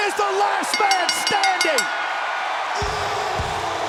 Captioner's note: bell rings; rock music plays